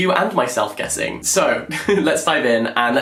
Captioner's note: laughs